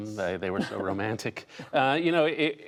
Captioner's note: laughter